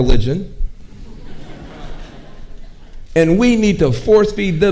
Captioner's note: audience laughing